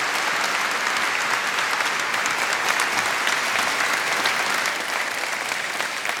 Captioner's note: audience applauds